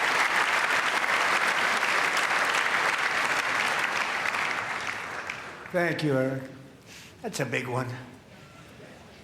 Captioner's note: applause